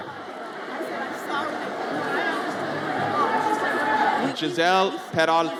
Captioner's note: audience chatters